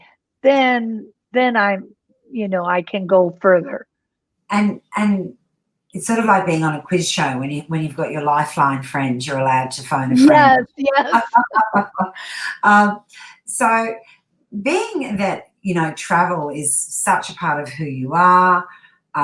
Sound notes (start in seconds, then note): 10.1 laughs